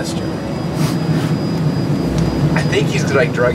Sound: sniffs bottle

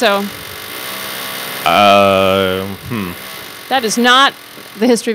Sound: object cackling

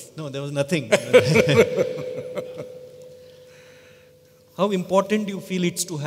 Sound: Sadhguru Laughs

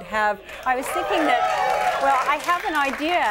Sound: audience cheering

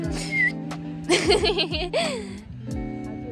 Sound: laughter

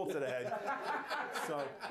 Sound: laughter

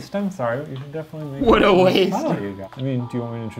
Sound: laughing

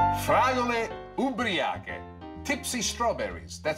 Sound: foreign language

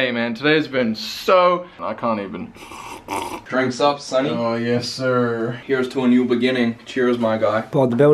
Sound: sips drink

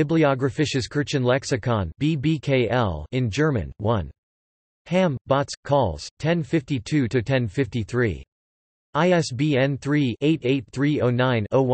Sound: in German

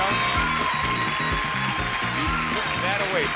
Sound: audience cheering; upbeat music

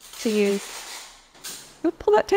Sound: Scritch

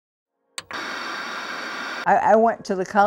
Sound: tv static blares

